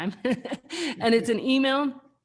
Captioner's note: laughs